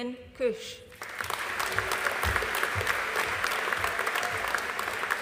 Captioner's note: audience applauding